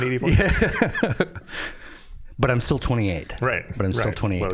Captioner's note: laughing